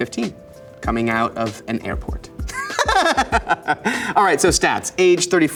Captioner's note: laughs